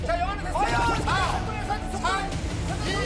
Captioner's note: shaking water